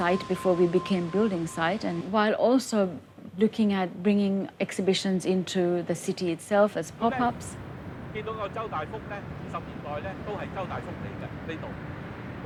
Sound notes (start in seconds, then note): 7.5 man in background speaking in Cantonese